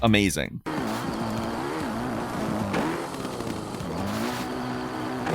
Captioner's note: motorcycle engine revving